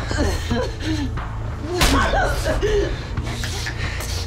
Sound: punch thuds

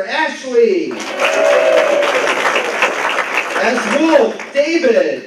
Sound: applause

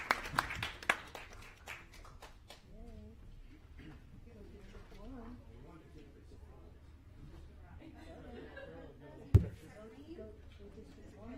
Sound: applause

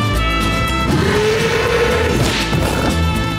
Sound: bellowing

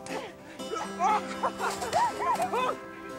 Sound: giggling; groaning

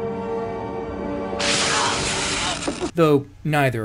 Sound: crackling sounds and Luke's cry of pain

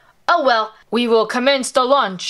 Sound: imitates Woody's voice

